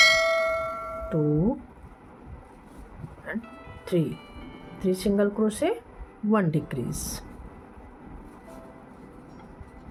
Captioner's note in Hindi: घंटी की आवाज़